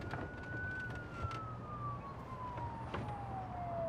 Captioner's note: police sirens